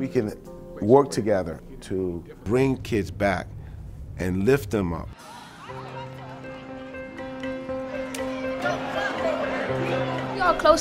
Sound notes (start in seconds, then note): 5.1 hopeful music; 5.2 students chattering; 8.1 hands clap together